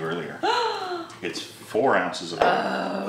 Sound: gasp

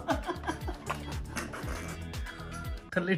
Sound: laughs

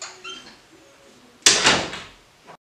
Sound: door shuts

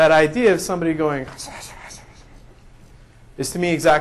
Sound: whispering

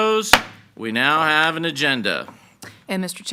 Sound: gavel bangs

